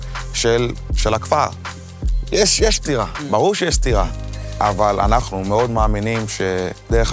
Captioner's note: continues speaking in foreign language